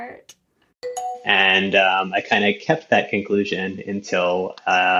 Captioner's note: bingbong